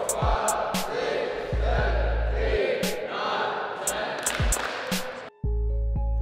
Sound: claps

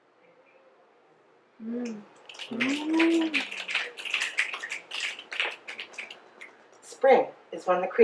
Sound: audience mms and snaps

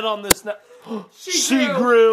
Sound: both gasps

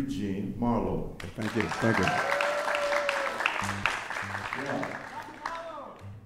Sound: audience applauding

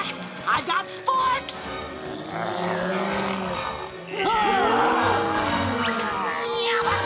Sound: moaning; grunting

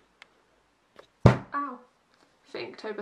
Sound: elbow hitting desk

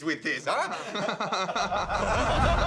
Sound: laughter

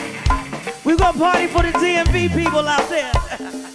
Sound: laughs

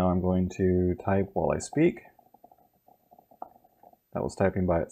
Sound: typing by itself

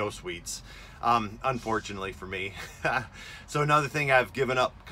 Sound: giggling

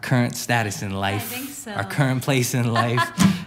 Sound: chuckles; laughs

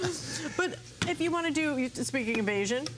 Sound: laughter

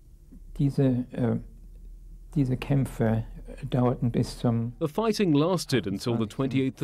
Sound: speaking in a foreign language

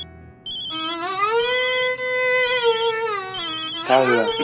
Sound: phone ringing

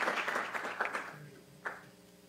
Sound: applause

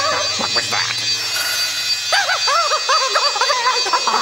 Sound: Emperor cries in fear

